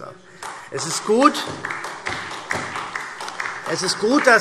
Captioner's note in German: Beifall SPD